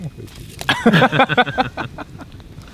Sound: all laugh

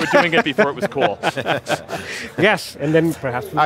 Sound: laugh

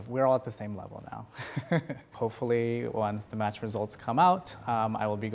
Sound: laughter

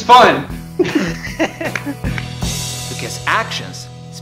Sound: laughs

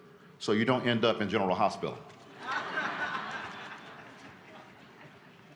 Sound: laughter

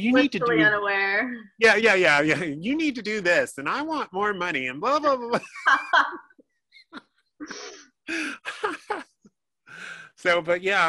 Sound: laughing

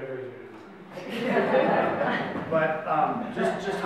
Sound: audience laughs

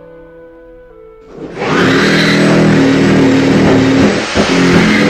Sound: drilling nooiiissessss!

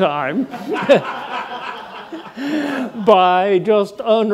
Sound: audience laughing

